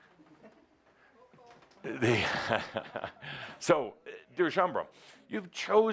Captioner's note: someone says, “Uh-oh,” Adamus chuckles